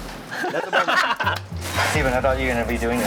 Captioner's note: both laugh